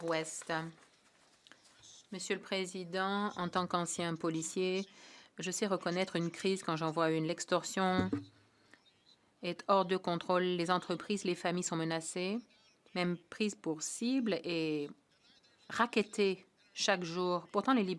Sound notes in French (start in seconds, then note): 4.6 voix de l'interprète